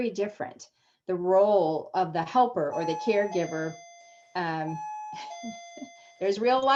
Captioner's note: door bell dings; laughs